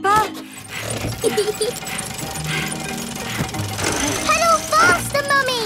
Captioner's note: mummy pig panting; peppa laughing